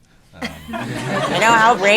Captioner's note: laughter